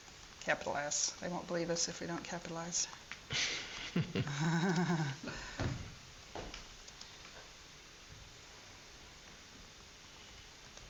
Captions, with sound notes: Capital S, they won't believe us if we don't capitalize. (laughing)